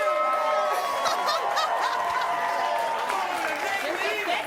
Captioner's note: audience cheering and applauding